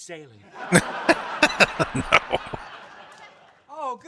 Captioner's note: laughing